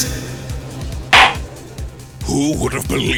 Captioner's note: gavel slams!